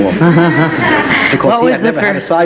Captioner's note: audience laugh